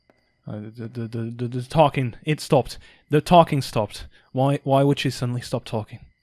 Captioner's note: stammering